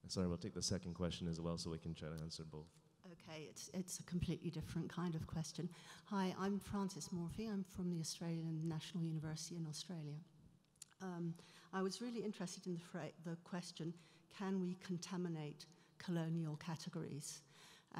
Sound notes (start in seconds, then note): 3.4 voiceover